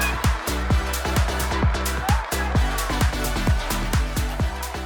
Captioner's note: audience applauding